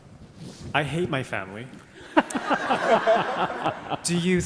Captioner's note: all laughing